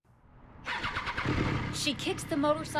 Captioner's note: motorcycle revs